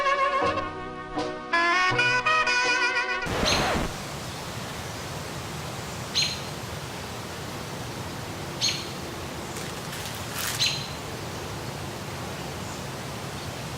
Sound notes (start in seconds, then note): 3.2 record scratch; 6.0 bird chirps